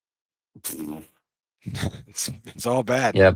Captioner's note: sad fart trumpet noise